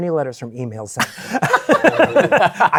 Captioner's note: laughter